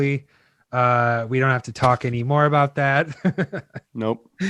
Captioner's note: laughs